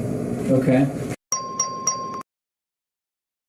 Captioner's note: ding, ding, ding